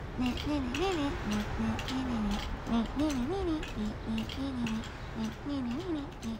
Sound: humming

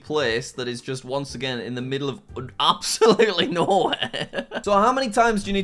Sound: laughs

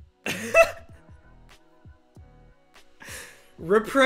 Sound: laughter

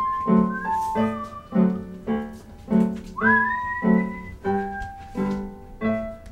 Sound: whistling

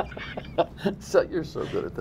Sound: laughter

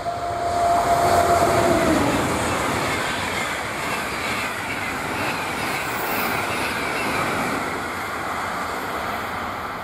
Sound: Frecciarossa locomotive noise; Frecciarossa transit noise

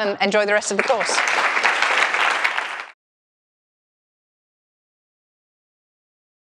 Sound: applause

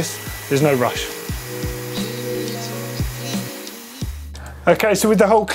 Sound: vacuum suction

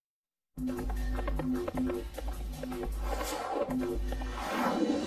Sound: heart beating; hooves galloping

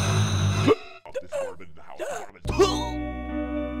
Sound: air sucking; choking; cough; hiccup

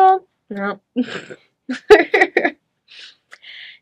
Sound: chuckles

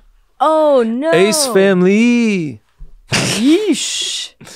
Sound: laughs

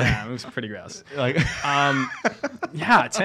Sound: laughing

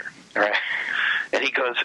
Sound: laughs

